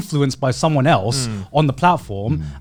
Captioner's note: affirmative murmuring